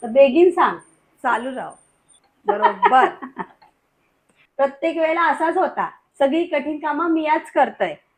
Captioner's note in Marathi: हास्य